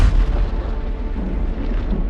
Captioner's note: loud blast